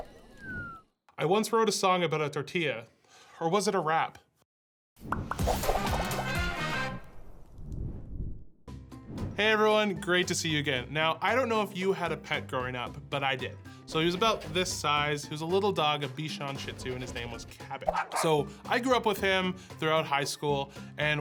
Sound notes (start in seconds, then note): 5.4 upbeat music; 17.9 dog barking